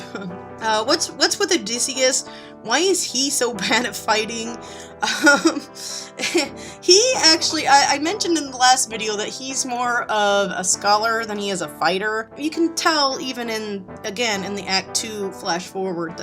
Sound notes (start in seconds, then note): 5.0 laughing